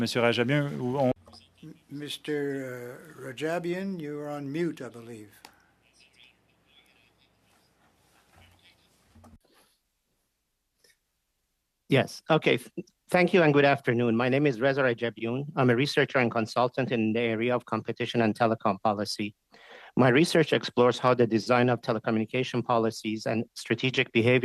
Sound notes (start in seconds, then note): 5.1 speaking French